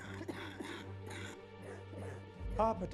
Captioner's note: coughs